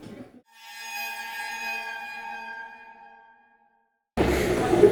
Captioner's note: spooky sound effects